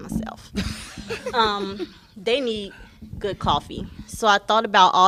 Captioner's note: laughter